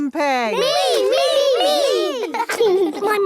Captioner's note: laughing